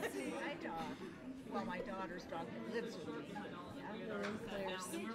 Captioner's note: overlapping chattering